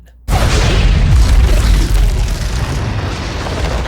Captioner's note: explosion